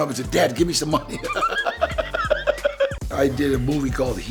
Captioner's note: laughs